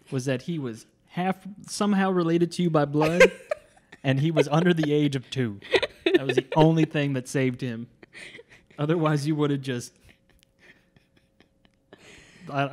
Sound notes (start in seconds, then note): 3.0 laughs; 11.5 chuckles